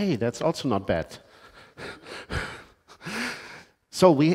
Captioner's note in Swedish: Laughs